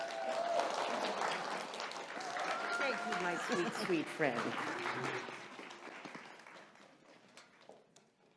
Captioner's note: cheers and applause